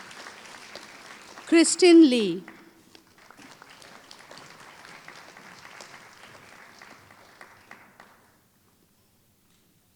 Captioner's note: applause